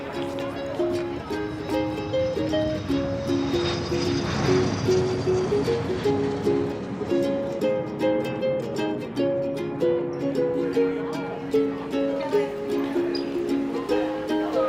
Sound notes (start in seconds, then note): 0.2 uptempo music; 1.8 jet engine roaring